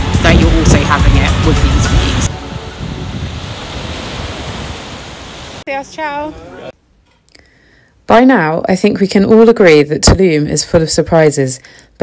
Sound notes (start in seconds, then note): 3.3 waves crashing